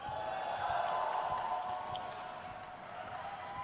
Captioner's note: crowd cheers